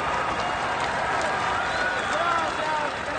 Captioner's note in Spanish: Aclamaciones